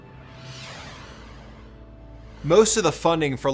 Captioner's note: logo whooshes